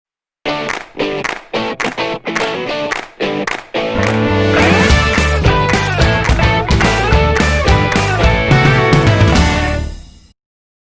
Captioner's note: claps